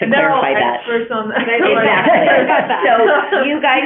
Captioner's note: overlapping chatter